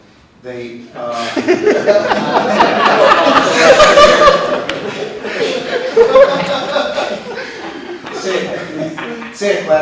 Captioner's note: laughter